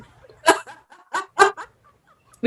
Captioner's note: laughs